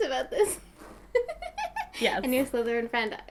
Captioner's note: laughing